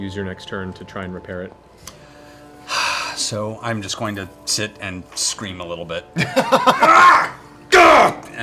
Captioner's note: sighs; shouting